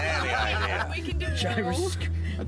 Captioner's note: laughing